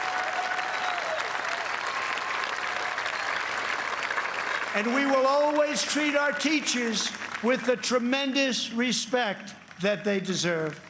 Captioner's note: cheers and applause